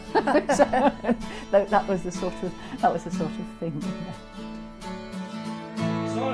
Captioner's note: laughs